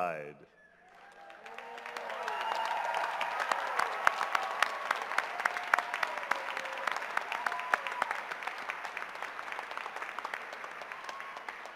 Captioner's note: cheers and applause